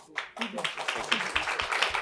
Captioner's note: applause